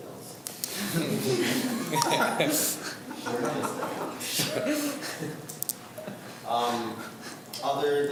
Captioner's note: group laughs